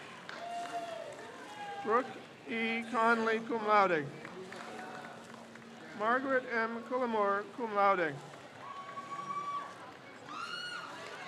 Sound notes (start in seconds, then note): 0.0 crowd cheers; 4.2 crowd cheers; 8.4 crowd cheers